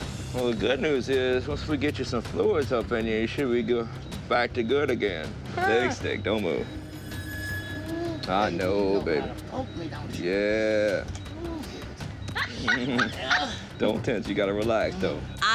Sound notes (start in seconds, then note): 12.3 laughs